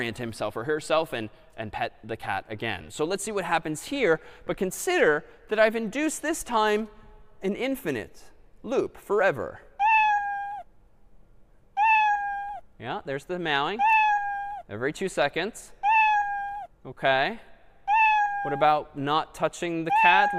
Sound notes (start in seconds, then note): 9.4 meowing